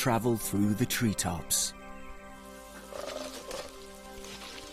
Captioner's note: leaves rustling